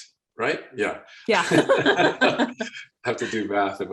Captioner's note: laughing